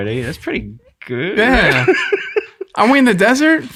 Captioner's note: innocent laughing